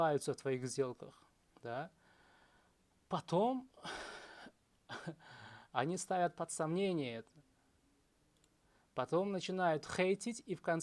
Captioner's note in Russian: вздыхает